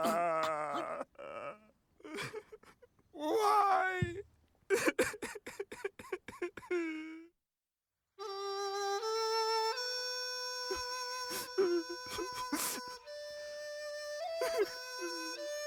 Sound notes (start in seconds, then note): 11.7 sobs